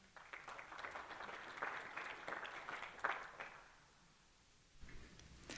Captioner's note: applause